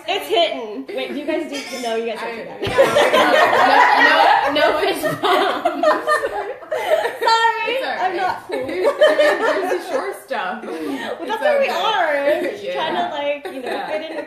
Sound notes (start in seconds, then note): 0.0 laughter; 2.6 laughter